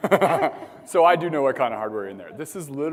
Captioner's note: laugh